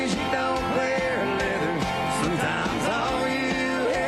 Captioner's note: none